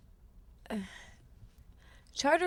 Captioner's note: Justine sighs